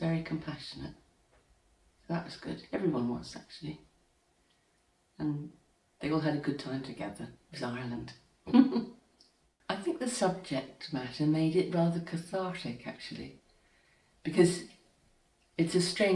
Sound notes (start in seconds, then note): 8.4 chuckles softly